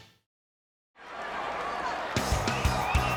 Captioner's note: crowd cheering